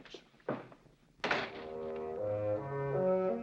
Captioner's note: door closing